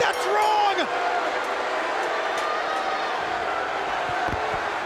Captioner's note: crowd chattering